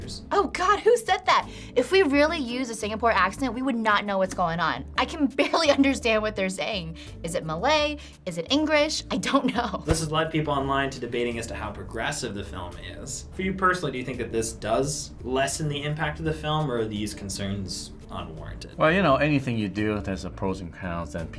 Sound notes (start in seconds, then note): 9.3 chuckles